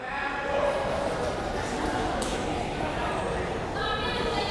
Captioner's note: crowd members talking